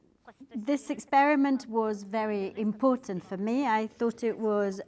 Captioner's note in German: wieder auf Italienisch